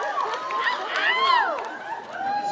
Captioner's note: audience continues cheering; catcall from audience